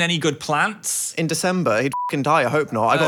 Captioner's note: beeps